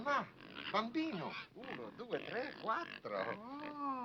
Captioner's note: speaking foreign language